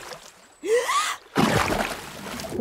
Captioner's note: gasps